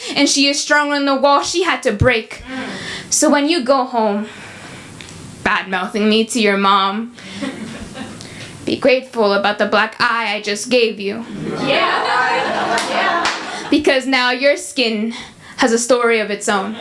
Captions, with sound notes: and she is stronger than the walls she had to break. So when you go home bad-mouthing me to your mom, be grateful about the black eye I just gave you [audience cheering] because now your skin has a story of its own.